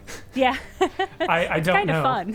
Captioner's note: laughing